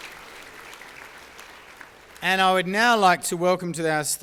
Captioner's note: applause